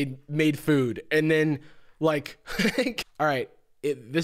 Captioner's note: laughs